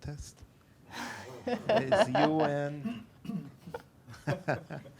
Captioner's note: laughing